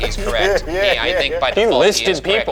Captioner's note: laughing